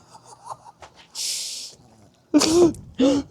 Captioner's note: laughing